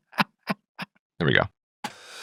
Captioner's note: laughing